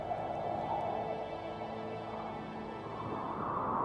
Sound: wind blows

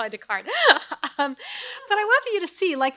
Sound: crowd laughs

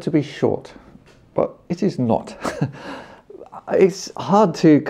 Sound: laughs

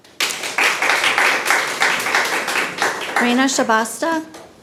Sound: people clapping

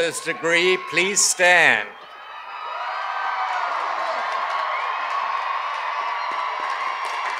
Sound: cheers and applause

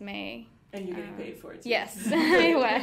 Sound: laughing

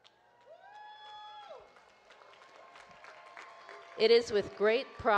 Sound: audience cheering and clapping

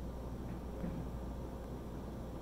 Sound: muffled thump

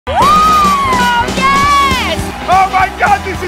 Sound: cheers

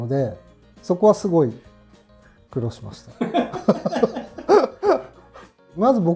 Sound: laughing

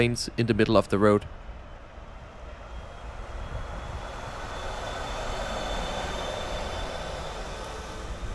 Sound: electric bus noise

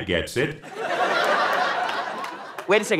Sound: audience laughing

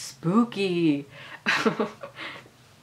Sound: laughing

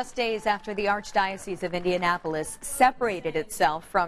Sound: applause

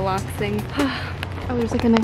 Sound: sighs

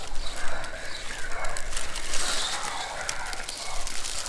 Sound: whispering intensifies

